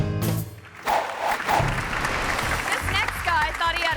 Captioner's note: audience clapping; air whooshes